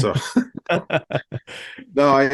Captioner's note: both laughing